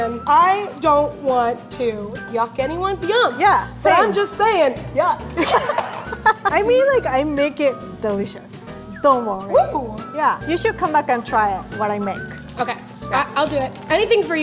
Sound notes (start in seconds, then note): 5.4 laughs